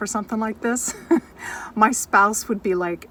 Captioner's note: laughs